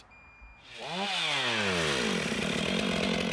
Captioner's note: chainsaw noise